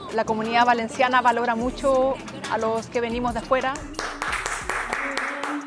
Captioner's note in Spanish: Aplaudiments